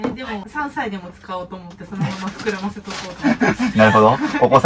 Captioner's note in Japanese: 笑い